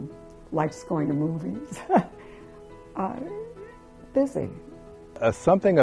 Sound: chuckles

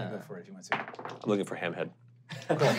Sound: rolling dice

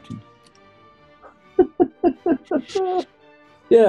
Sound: giggling

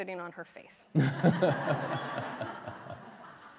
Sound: laughter

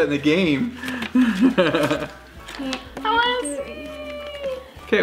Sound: laughs

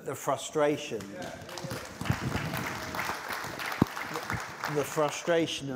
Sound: applause

